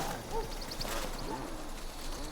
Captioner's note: bird chirping